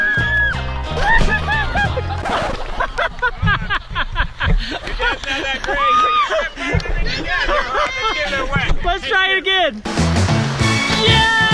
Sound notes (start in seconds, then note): 0.9 laughing; 9.8 upbeat music